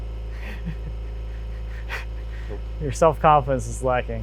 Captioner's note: snickering